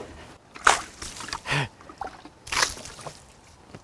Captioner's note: water splashing